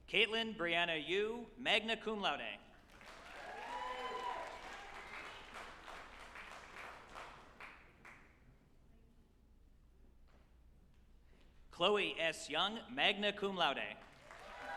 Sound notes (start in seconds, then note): 2.8 group applauding and cheering; 14.0 group applauding and cheering